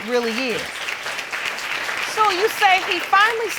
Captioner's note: applause